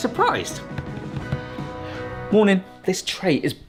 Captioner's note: finger drumming